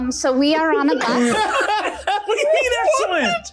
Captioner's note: laughing